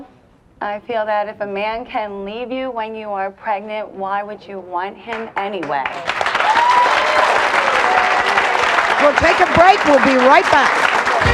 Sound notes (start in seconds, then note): 6.0 audience cheers; 11.1 audience applauds